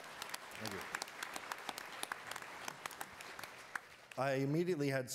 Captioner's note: attendees applauding